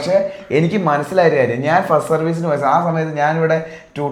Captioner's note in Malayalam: തൊണ്ട ശരിയാക്കുന്നു